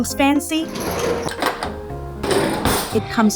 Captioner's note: drawer sliding; drawer slamming